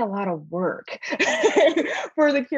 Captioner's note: laughing